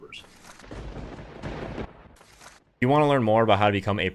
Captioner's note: lightning striking